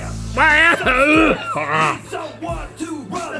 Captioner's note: coughing and retching